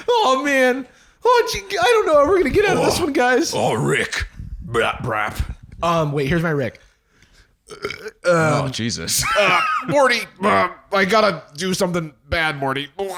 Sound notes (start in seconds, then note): 3.9 deep voice; 7.6 burps